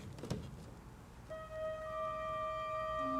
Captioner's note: none